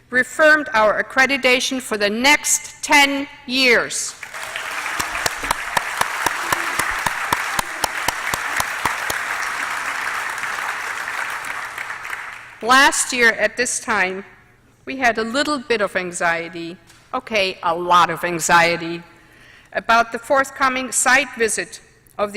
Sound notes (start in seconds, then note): 4.1 applause